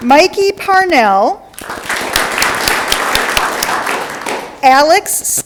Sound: audience clapping

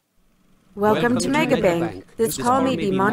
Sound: class in unison

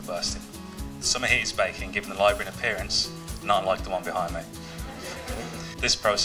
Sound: laughter

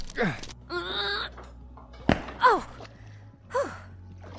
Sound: grunt

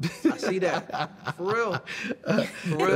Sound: laughter

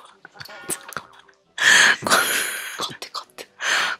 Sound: laughing

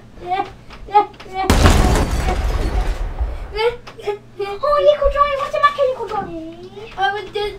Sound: explosion

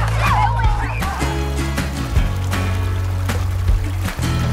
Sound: river flowing; children talking

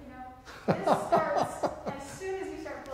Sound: laughs

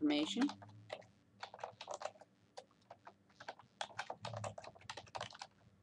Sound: typing

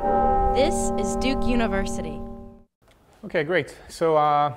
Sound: voiceover

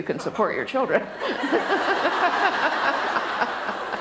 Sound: laughter

